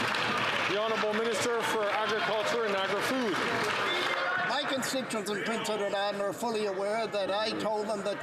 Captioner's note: some Applause